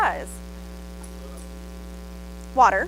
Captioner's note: audience member responds